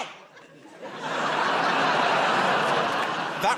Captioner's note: laughter